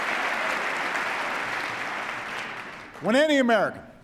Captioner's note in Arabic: تصفيق